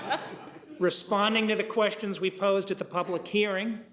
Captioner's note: laughing